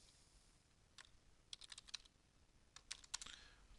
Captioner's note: typing